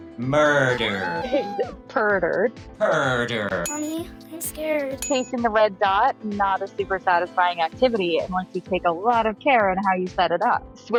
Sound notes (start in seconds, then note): 0.4 cat mreowing; 4.9 bell dinging